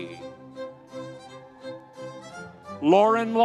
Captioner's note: audience cheering